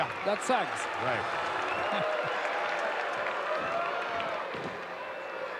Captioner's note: audience cheering